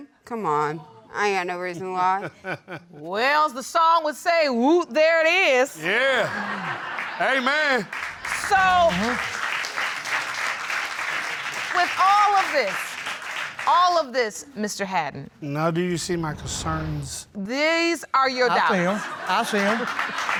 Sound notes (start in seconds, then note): 2.2 laughing; 5.8 audience laughs